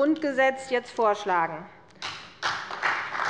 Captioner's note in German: Beifall bei der CDU und dem BÜNDNIS 90/DIE GRÜNEN